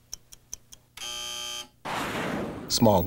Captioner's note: buzzer